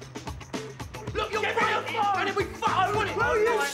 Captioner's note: overlapping shouting